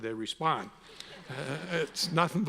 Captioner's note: all laugh